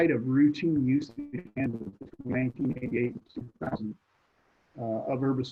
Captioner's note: connectivity hitch drowns other sounds